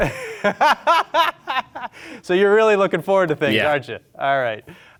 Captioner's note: laughs